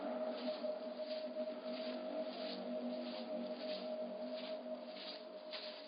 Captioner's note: footsteps approaching